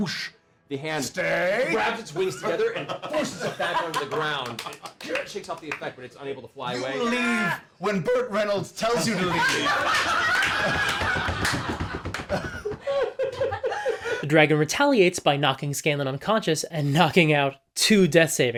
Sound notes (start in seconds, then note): 13.1 laughter